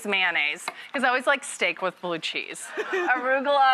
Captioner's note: audience laughs; laughs